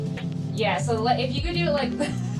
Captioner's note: everyone laughs